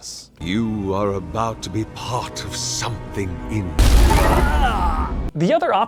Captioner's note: blammo